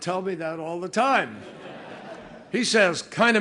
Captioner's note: laughter